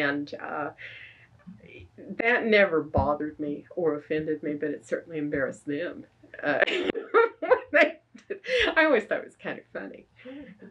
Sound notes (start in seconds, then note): 6.6 laughs